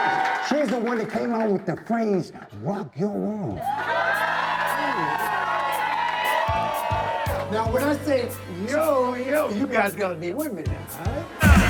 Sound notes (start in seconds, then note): 0.0 cheering; 3.6 cheering